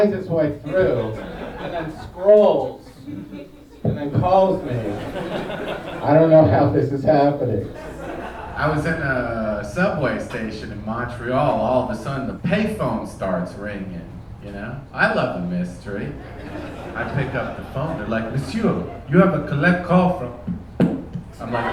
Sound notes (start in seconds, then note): 5.1 audience laughing